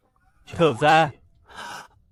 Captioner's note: sigh